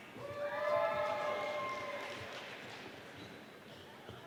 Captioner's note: audience cheering